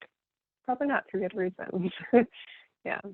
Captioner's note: laughing